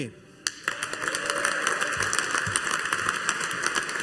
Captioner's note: audience applauding